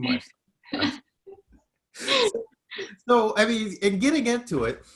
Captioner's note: both laughs